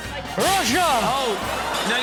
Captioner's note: glass shuttering